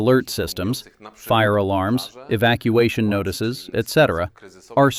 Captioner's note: fire alarms, evacuation notices, etc